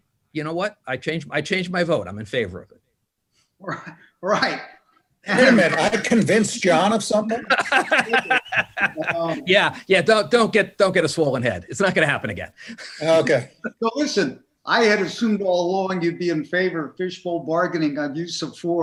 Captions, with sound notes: I CHANGE MY VOTE. I'M IN FAVOR OF IT. ≫ RIGHT. ≫ I CONVINCED JON OF SOMETHING? [LAUGHTER] ≫ YEAH, YEAH, DON'T GET A SWOLLEN HEAD. IT WON'T HAPPEN AGAIN. ≫ LISTEN.